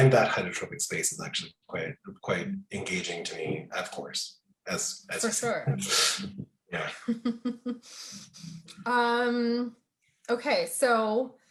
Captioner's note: laughter